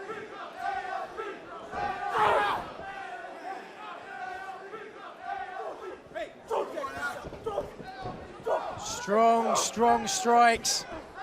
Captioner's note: crowd cheering